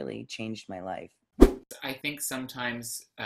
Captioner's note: whoosh